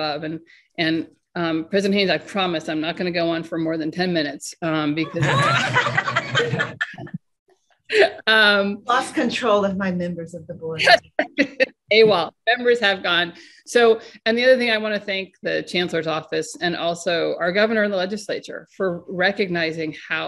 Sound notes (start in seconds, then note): 5.0 laughter